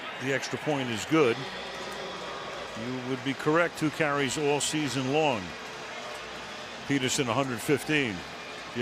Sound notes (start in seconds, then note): 2.1 pa announcement